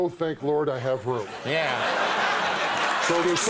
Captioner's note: audience laughs